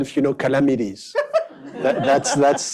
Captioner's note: laughter